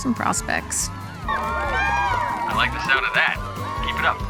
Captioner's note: cheering